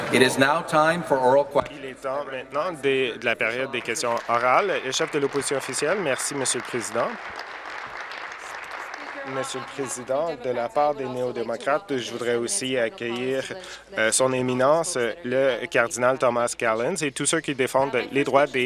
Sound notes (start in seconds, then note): 6.7 applause